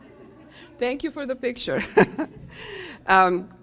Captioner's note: chuckles